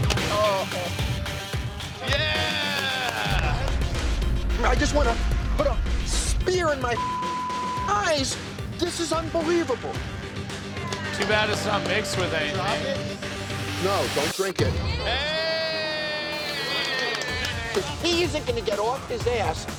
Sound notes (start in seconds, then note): 2.4 clapping; 16.6 clapping